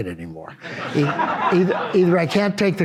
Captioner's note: audience laughs